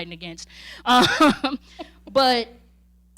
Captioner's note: chuckling